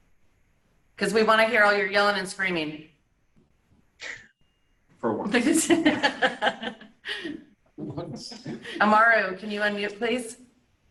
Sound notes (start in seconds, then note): 5.7 laughing